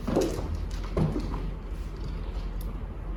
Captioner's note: thumping